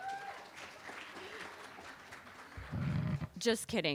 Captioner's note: applause